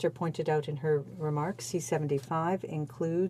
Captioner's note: speaking in French